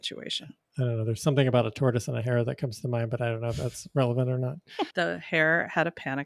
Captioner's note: chuckles